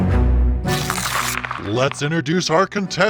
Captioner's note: paper crackling